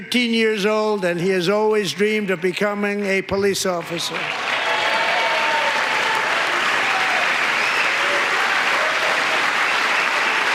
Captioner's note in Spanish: gritos